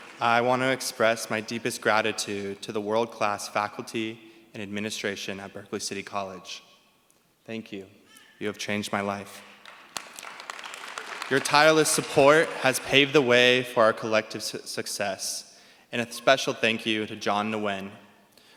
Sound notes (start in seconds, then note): 9.4 applause